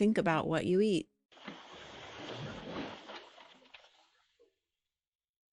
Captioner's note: water sloshing